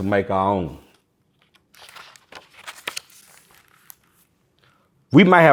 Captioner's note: pages rustling